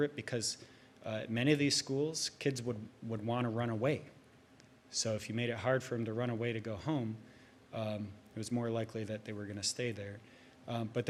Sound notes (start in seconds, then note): none